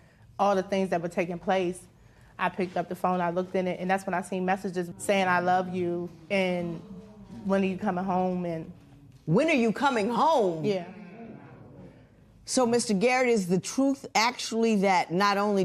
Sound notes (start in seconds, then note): none